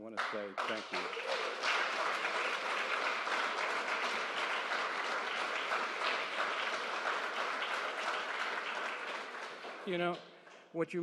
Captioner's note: applause